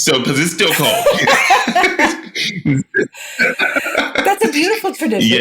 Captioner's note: laughing